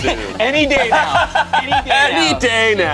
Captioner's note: group laughs